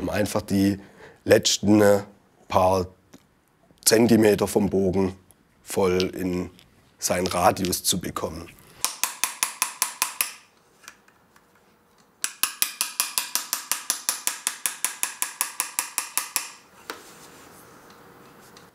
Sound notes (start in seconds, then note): 8.8 hammering